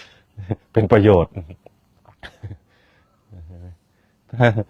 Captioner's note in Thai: เสียงหัวเราะ; เสียงหัวเราะ